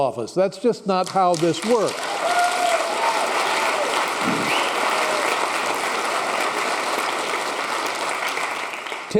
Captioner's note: applause